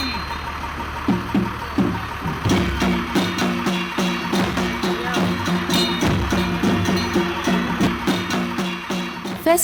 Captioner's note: bell jingling; engine revving; metal clanking; engine revving; soft drumming